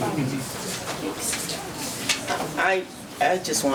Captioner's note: audience murmuring